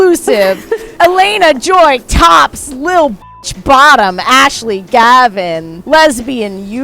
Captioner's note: beep